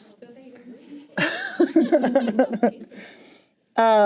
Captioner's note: chuckles